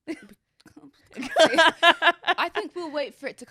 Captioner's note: laughs